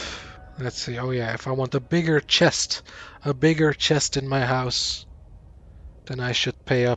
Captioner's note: sighs